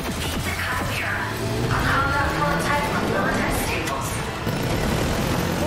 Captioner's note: robotic voice speaking in game